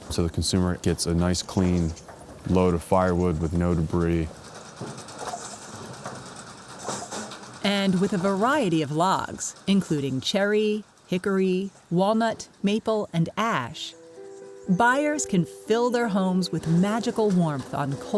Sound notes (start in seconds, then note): 5.3 wood dropping into bin